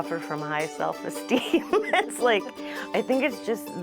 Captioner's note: chuckles